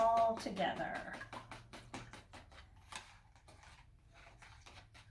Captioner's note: whisk scraping